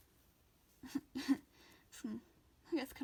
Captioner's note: laughs